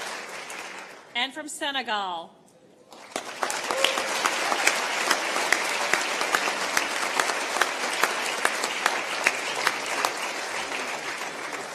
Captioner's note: applause